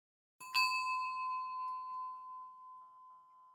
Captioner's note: bell ringing